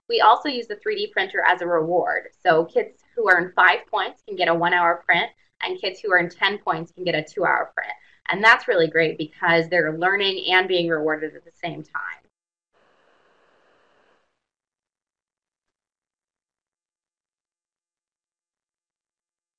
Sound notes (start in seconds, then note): 12.8 silence